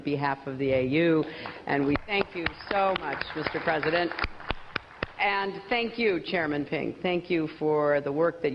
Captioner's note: applause